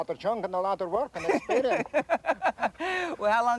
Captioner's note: host laughs